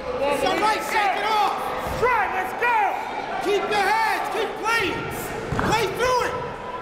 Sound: crowd talking; coaches yelling

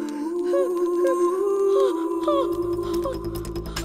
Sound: wincing

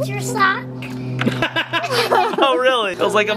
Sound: laughs

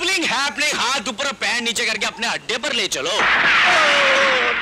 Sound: gunshot

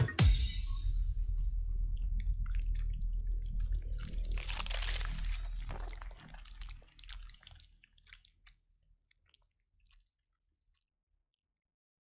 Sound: chewing sounds

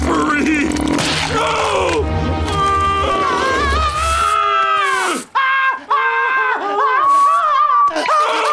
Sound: screaming

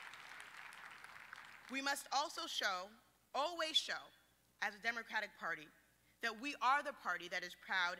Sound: applause

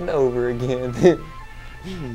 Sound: laughs

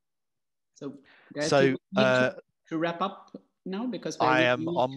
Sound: choppy audio

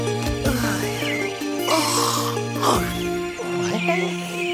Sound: yawns

